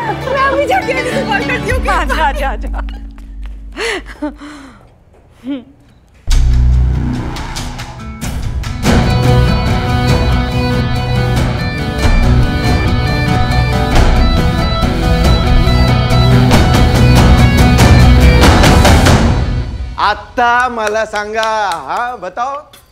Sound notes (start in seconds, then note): 3.6 Laughs